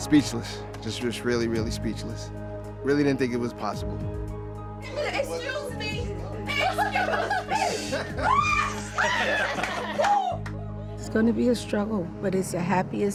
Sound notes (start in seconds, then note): 6.5 laughter; 7.6 shouting